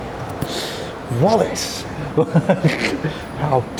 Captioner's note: laughing